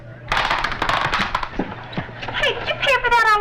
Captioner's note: popcorn popping